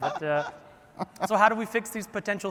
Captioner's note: laughs